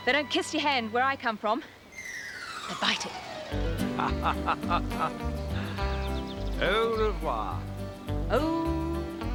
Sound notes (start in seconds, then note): 3.5 laughs; 3.6 upbeat country music